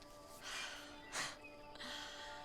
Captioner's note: Alora laughs